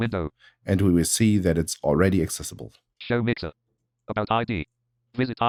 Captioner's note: automated voice; automated voice